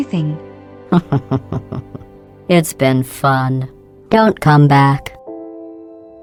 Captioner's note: chuckle